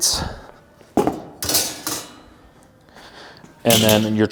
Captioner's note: metal clanking